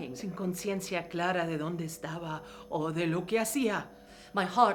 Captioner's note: speaking in foreign language